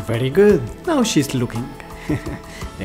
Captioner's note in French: rires